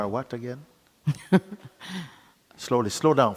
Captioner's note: questioner laughs